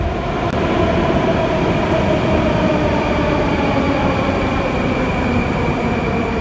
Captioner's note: arrival of train at the station